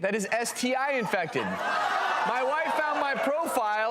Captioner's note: crowd laughing